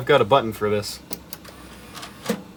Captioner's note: soft power button click